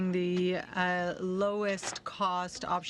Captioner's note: speaking French